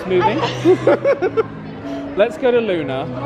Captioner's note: laughing